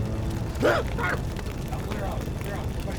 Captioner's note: Tim coughing